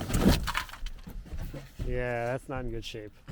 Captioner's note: siding clattering